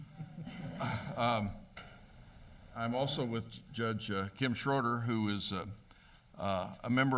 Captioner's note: laughter